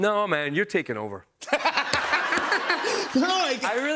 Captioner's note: laughs